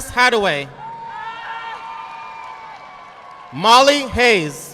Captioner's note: audience clapping